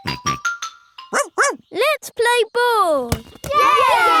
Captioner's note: snorts; barks; all cheering and laughing